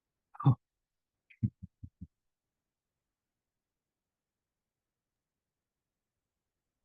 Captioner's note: chuckling